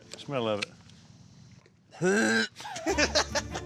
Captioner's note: dry heaving; laughter